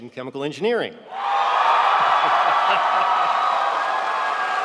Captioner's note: audience cheering